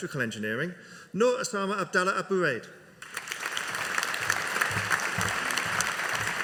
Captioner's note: audience applauding